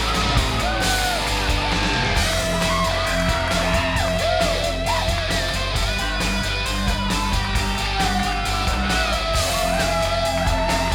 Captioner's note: crowd cheering